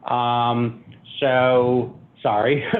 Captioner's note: chuckling